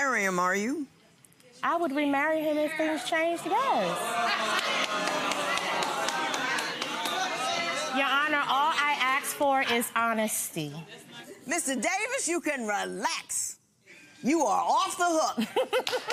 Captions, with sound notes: - You're not gonna remarry him, are you? I would remarry him if things changed, yes. (gallery shouts) Your honor, all I ask for is honesty. - Mr. Davis, you can relax, you are off the hook.